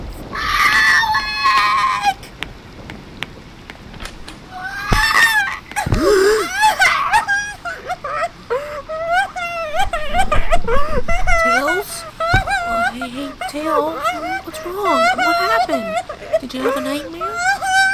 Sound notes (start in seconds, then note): 6.6 gasps